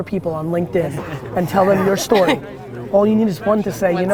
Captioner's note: laughs